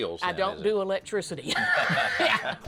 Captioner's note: both laugh